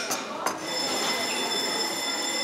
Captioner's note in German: Schulglocke